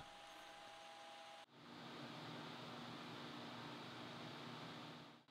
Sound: lathe machine whirring

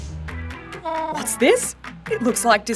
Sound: groovy music; penguin braying

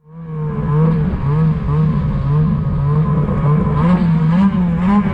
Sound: snowmobile engine whirring

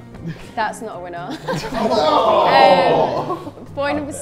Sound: laughs

